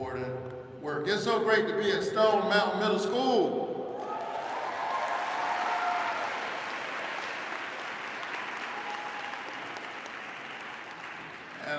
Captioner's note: applause